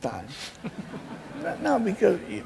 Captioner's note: laughing